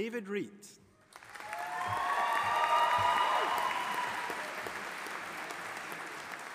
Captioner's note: audience applauding and cheering